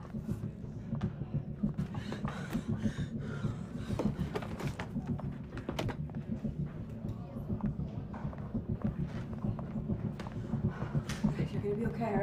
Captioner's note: taking deep breaths